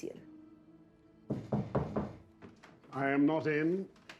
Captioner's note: knocking on door